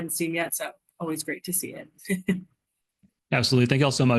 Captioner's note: chuckles